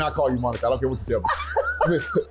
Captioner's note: laughter